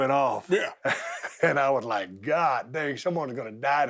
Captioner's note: chuckling